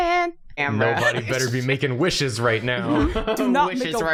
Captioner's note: chuckling; laughs